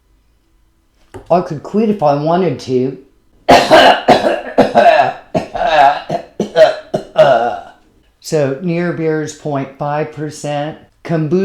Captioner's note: cat coughs